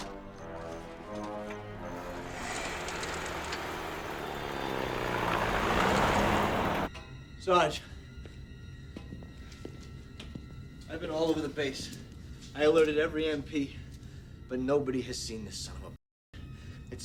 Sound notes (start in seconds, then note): 1.9 jeep rumbling